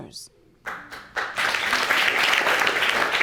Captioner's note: audience applauding